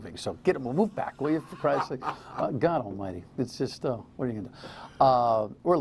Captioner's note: laughter